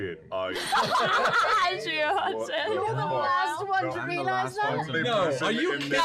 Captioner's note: laughter